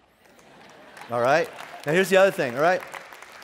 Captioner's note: laughing and clapping